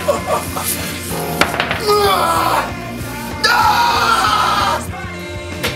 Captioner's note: grunts humorously